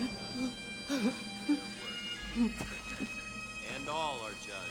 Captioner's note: whimpering